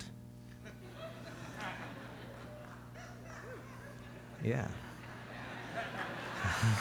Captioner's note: laughter